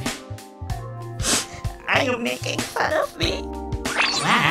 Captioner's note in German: Schluchz